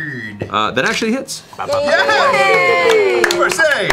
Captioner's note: cheering